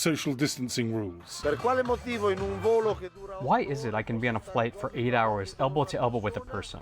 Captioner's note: through translator